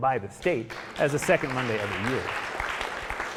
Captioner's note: audience applauding